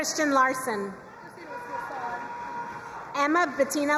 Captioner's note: crowd cheering and applauding